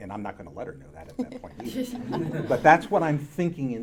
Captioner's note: audience laughing